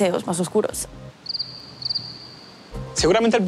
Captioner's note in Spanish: Grillos